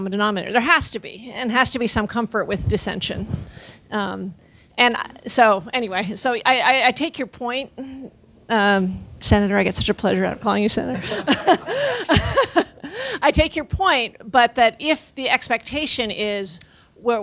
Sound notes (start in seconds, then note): 11.0 laughing